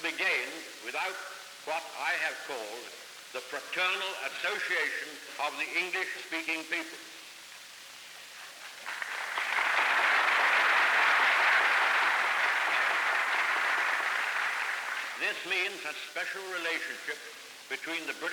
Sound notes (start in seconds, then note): 8.5 applause